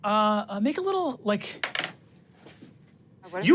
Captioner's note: dice rolling